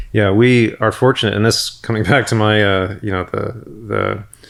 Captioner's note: chuckles